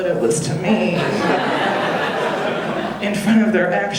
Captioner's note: audience laughing